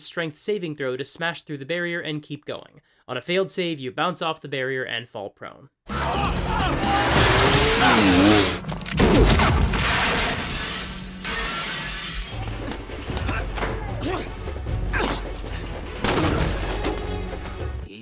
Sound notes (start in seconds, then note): 6.9 glass shattering; 8.8 breaking glass; 8.8 gunshots; 11.1 grunting sounds over action music